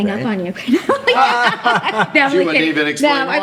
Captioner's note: laughs